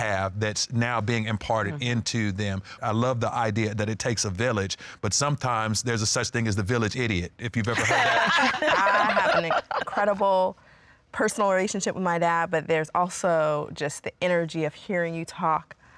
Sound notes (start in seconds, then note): 7.6 laughter